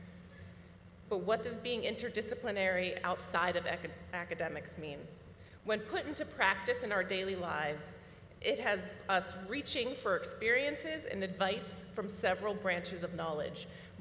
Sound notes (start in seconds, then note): none